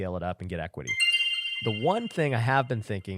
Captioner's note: chimes ringing